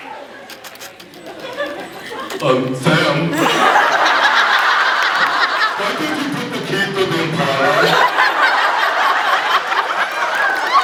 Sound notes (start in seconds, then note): 2.4 dopey voice; 3.7 laughs; 7.8 laughs; 10.5 cheers, applauds